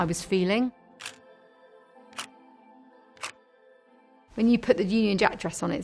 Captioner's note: camera clicking